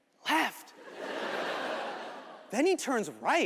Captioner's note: audience laughing